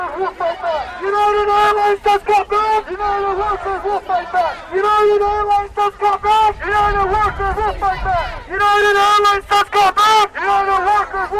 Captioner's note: chanting